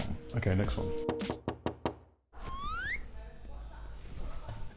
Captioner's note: door knocking